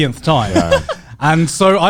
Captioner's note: chuckling